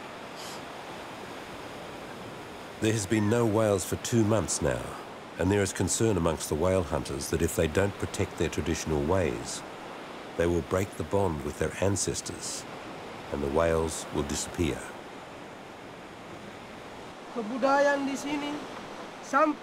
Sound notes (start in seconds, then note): 17.1 speaking Indonesian